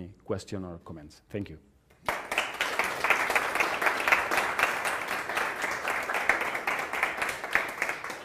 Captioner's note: applause